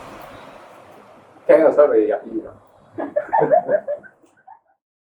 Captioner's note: chuckles